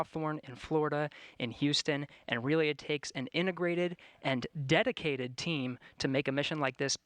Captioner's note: none